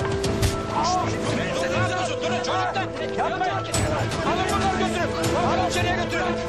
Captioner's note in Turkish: Bağırışlar